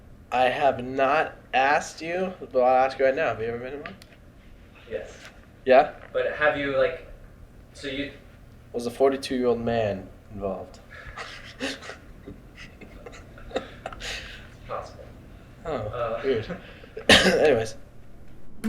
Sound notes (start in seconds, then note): 10.5 laughs; 16.7 coughs